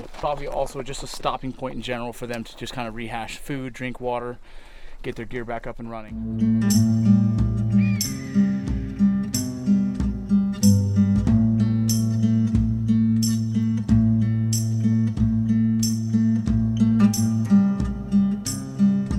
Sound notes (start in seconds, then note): 6.1 guitar music plays; 6.1 ATV rumbles